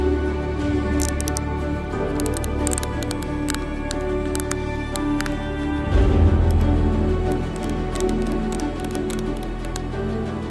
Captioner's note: sound of closing the snowshoes